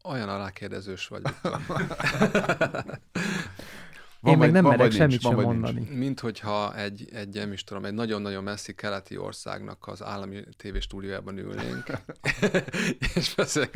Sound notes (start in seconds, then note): 1.3 laughing